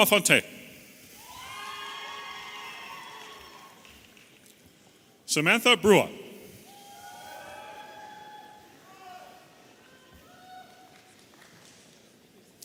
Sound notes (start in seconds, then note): 6.6 audience applauding and cheering